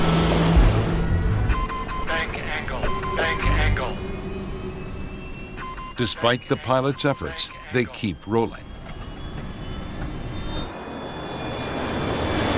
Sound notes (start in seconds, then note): 1.2 beeping